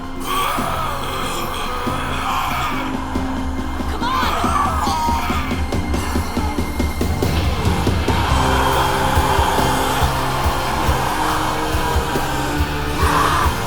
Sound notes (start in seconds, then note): 5.2 snarling